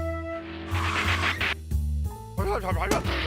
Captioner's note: tires screech